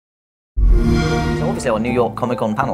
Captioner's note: xbox sound